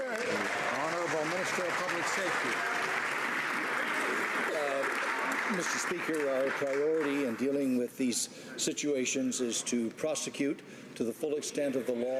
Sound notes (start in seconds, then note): 3.2 some Applause